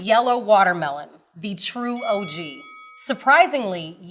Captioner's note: bell dings